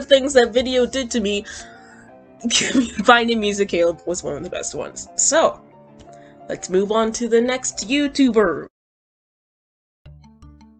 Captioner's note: giggles